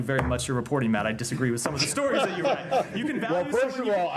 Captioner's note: laughter